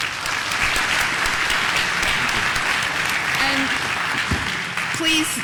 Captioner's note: applause